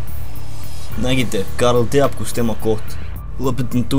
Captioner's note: Russian accent